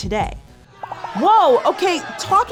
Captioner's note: angry crowd noise